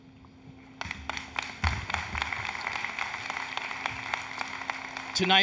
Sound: applause, Cheering

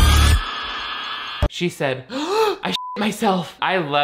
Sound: gasps; beep

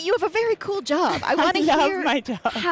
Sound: chuckles

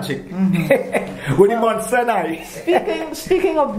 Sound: laugh

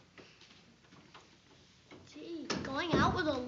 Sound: door closes

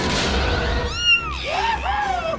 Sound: explosion; meow

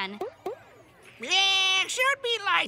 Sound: squawking

